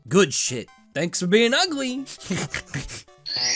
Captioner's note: geeky laugh